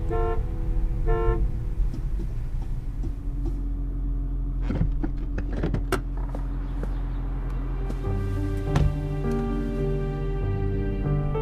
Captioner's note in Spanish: Pitido del claxon